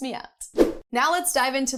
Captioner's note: air whooshing